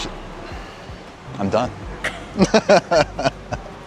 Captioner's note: laughs